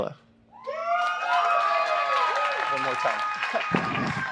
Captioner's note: applause